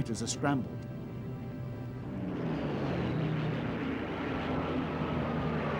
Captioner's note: humming, rumbling